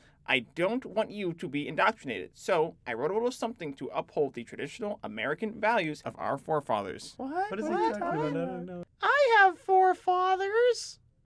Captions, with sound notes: I don't want you to be indoctrinated. So I wrote a little something to uphold the traditional American values of our forefathers. (CHILDREN MURMUR CONFUSEDLY) I have four fathers.